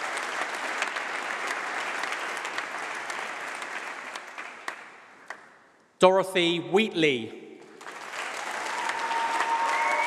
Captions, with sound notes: [Applause]. Dorothy Wheatley. [Applause].